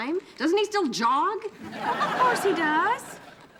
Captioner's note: audience laughing